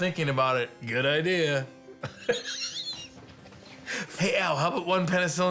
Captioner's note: laughs